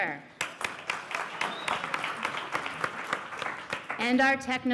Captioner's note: applause